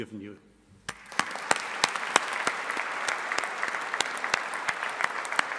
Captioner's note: audience applauding